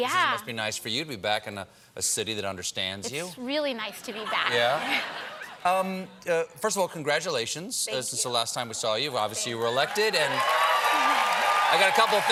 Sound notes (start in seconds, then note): 4.0 laughter